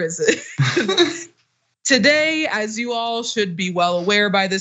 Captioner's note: laugh